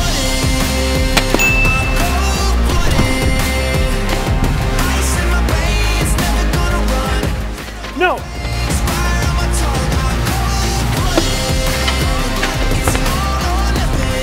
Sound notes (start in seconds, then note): 1.3 chime